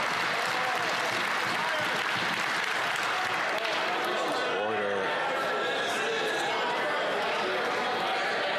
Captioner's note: cheering & Applause